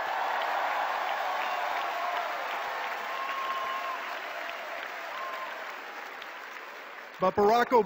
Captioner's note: cheers and applause